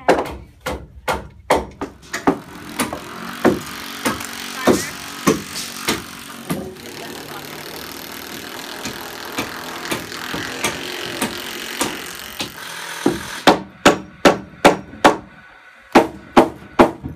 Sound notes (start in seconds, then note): 2.2 hammering sounds